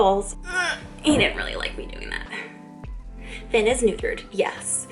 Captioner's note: grunts